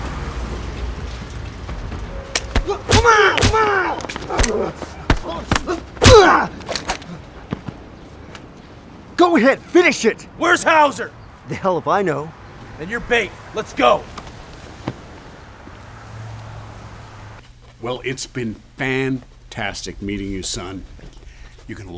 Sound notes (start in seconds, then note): 2.3 fists bashing; 3.3 Ramsay vocalizing